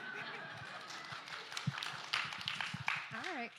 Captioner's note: laughter; applause